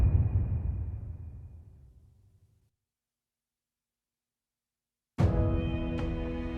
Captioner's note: dramatic sound